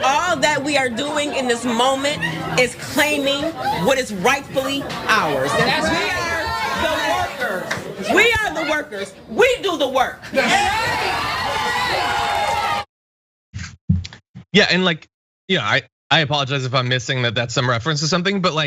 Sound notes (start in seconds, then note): 11.0 applause